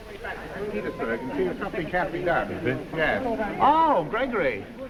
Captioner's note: crowd chattering